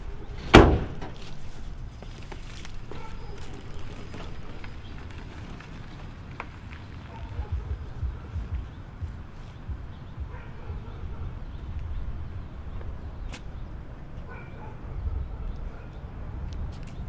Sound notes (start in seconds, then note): 0.4 car door slamming; 8.7 dog barking